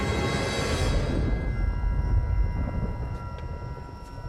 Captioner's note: booming